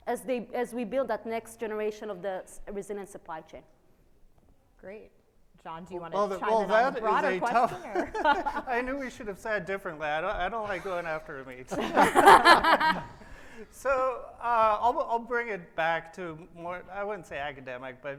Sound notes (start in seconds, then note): 7.0 laughs; 11.7 laughs